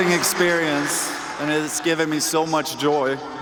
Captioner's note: cheers and applause